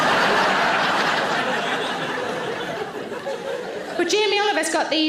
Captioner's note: audience laughing